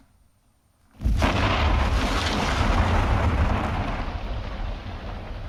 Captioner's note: explosion booms